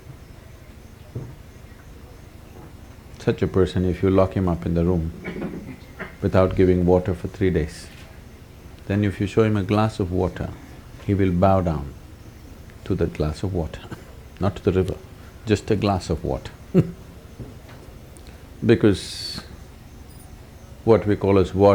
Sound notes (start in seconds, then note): 13.5 laughs; 15.6 laughs